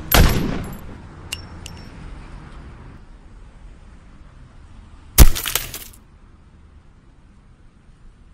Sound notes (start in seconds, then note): 1.3 shell casing tinking; 5.2 glass breakage